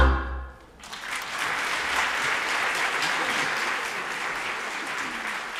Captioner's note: generous applause rings